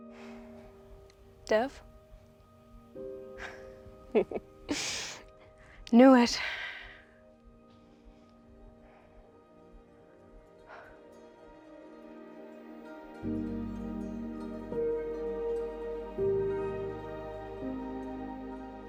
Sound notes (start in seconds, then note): 4.1 Summer laughing; 11.9 soft music continues